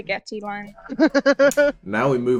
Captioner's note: laughter